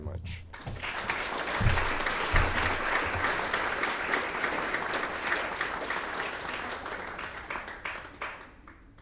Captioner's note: clapping